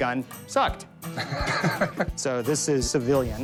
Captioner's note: laughs